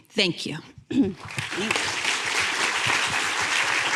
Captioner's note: applause